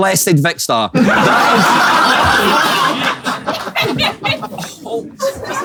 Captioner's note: people in room laughing